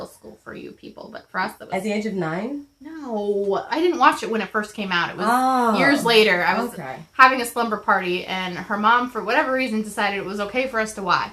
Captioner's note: ohh!!